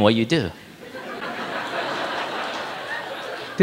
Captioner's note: audience laughing